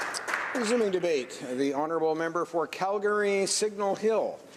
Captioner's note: some applause